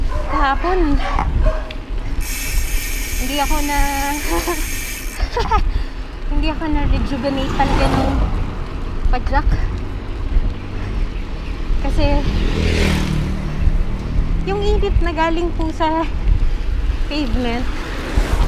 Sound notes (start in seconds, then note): 5.1 laughs